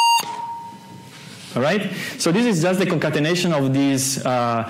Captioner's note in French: rejoue le Windows aigu